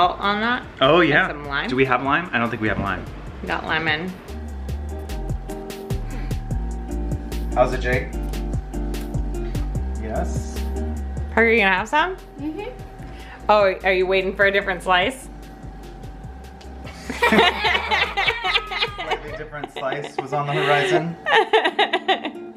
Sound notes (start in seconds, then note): 4.4 upbeat music; 16.9 family laughs